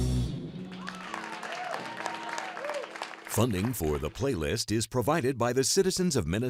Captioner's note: cheering and applause